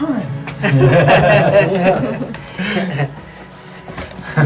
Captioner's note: both laughing